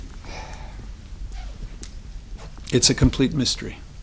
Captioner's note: man sighs